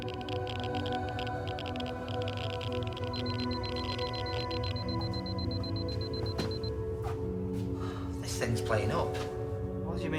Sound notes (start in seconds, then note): 3.5 device beeping